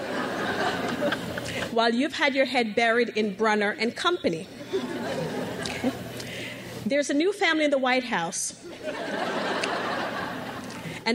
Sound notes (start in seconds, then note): 0.0 crowd laughs; 4.6 crowd laughs; 8.6 crowd laughs